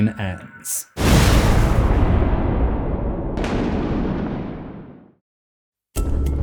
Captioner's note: thunder